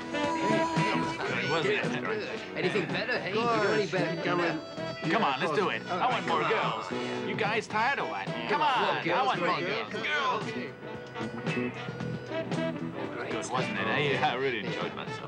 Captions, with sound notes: (people chattering) - Come on, let's do it, I want more girls. You guys tired or what? Come on, I want more girls. - Girls. - Good, wasn't it, eh? I really enjoyed myself.